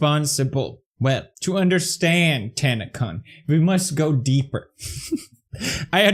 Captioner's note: laughs